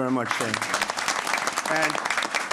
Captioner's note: applause